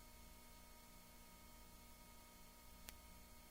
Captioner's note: clicking